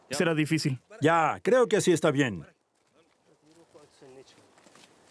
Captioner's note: Arabic spoken audio